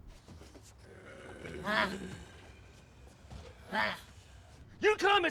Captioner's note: grunting; growling